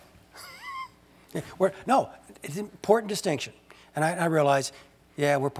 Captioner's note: laugh